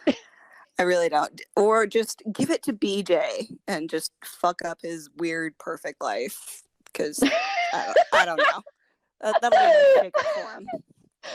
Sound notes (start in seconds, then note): 6.5 wheeze, cackles